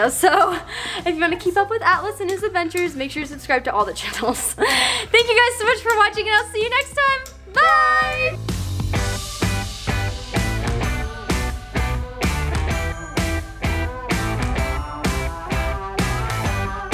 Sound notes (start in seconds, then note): 4.4 laughs; 8.7 bright upbeat music